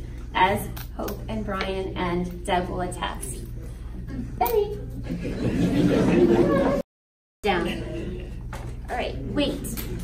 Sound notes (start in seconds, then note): 5.0 audience laughs